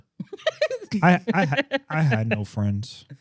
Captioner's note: laughing